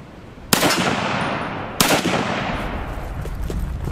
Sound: gun fires

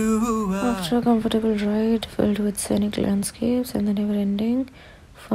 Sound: murmuring

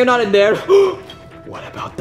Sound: Luigi gasping

